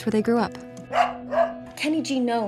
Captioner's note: dog barks